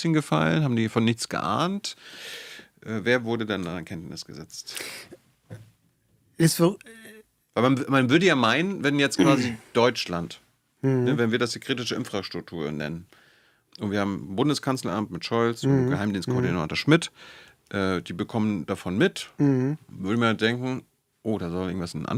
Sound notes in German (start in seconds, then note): 9.2 räuspern